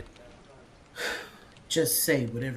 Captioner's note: sighs